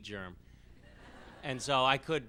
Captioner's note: laughs